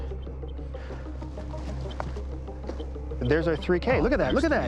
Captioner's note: chirping continues